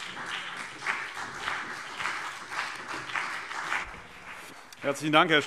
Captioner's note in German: Beifall CDU und BÜNDNIS 90/DIE GRÜNEN